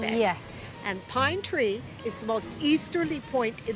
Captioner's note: none